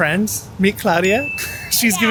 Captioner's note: bell dinging